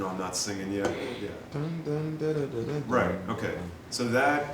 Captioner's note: imitating melody